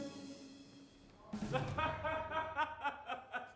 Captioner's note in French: rires